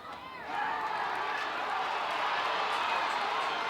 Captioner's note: crowd cheers